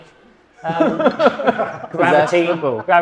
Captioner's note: guest laughing